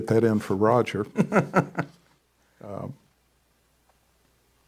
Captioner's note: laughs